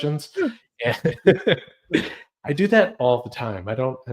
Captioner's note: laughs